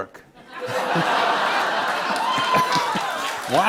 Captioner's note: laughter